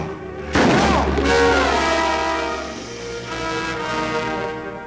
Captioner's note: gun shot